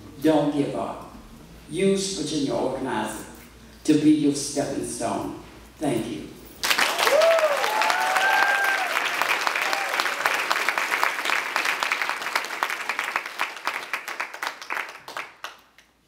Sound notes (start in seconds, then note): 6.6 cheers and applause